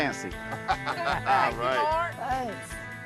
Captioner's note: laughing